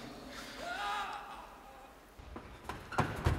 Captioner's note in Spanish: Se escucha un grito